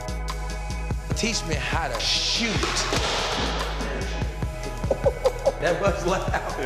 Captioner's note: puck slaps